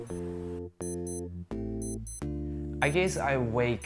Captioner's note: alarm clock beeps